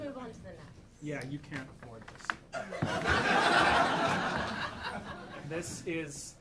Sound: audience laughing

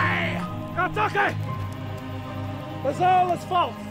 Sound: foreign language

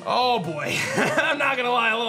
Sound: chuckles

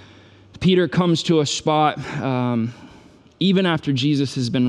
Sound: sighs

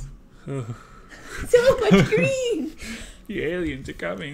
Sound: laugh

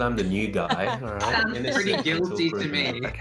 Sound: laughing

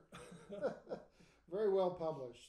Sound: laughing

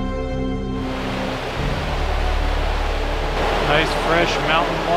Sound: water gushing

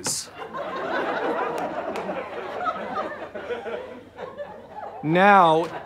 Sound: audience laughter

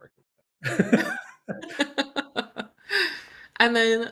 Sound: laughter

